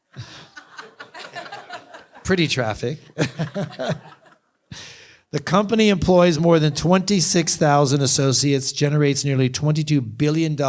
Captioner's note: laughter